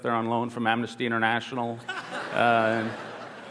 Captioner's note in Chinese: 笑聲